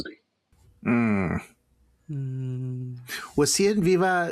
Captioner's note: vocalize appreciation